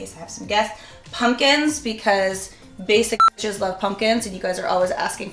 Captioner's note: beep